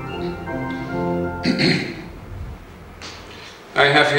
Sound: clears throat

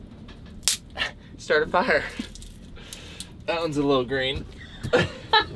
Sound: laughter

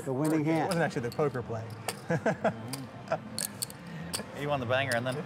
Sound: laughs

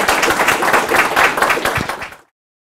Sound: audience applauding

